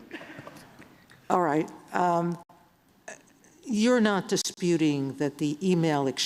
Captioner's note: laughter